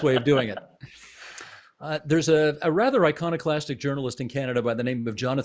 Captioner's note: laughter